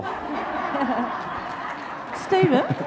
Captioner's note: audience laughs